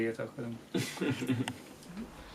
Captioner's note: Kristóf laughs